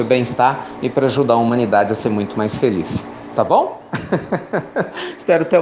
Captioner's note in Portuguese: Risos